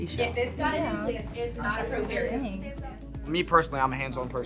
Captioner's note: students chattering